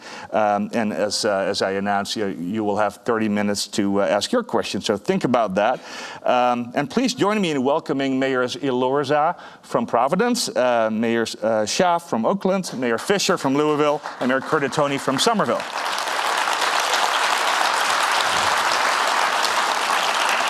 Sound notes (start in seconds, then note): 16.2 audience applause